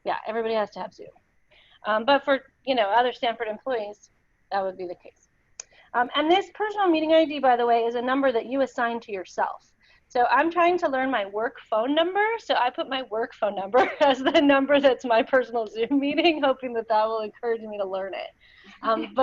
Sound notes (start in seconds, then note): 13.8 laughs